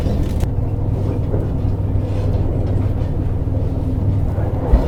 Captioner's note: laughs